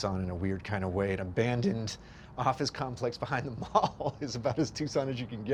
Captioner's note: laughs